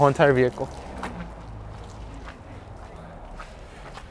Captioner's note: car revving